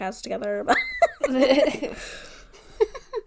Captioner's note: laughs